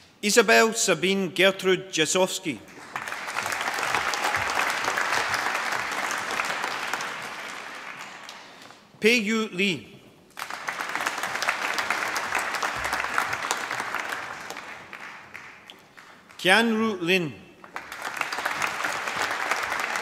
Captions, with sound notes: Isabell Sabine Gertrud Jasovsky. (APPLAUSE) Pei-Yu Li. (APPLAUSE) Qianru Lin.